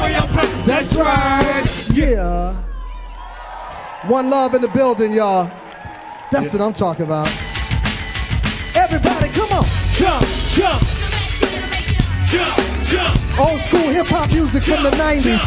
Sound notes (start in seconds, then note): 3.7 audience cheering; 5.9 audience cheering